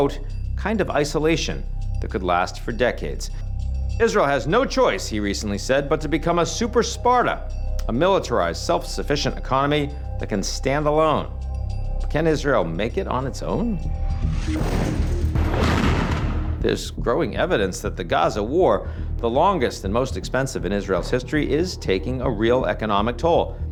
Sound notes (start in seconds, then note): 13.8 tense music; 14.6 explosions booming